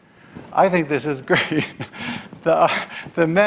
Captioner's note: laughs